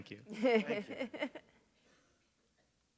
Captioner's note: chuckle